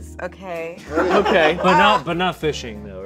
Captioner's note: people laughing